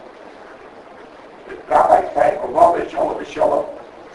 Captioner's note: speaking Yiddish